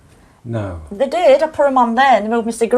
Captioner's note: voiceover